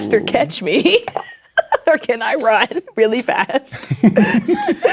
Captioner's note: laughing